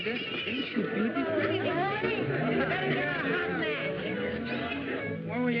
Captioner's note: chatter